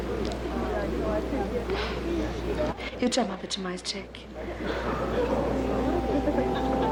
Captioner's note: sighs